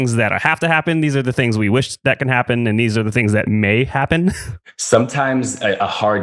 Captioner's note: laughs